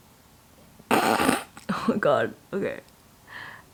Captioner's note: sniggers